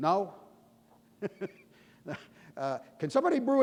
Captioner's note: laughing